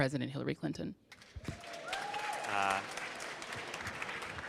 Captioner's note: audience claps